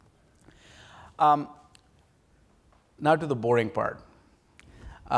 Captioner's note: pause